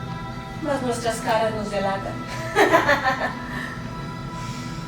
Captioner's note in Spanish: Ríe